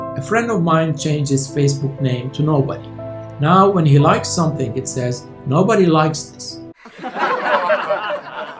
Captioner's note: laughter